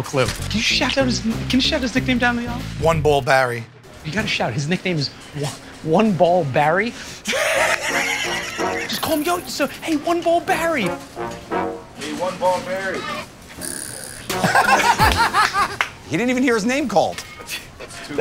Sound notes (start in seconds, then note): 7.2 laughter; 14.4 laughter